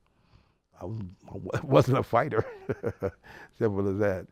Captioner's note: laughs